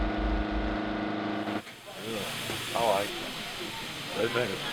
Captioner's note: machinery sounds stop